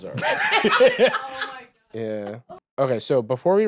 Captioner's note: others laughing